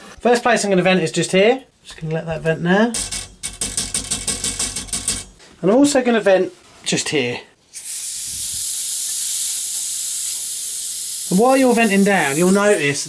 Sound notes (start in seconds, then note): 2.9 pipe pinging; 7.7 pipe hissing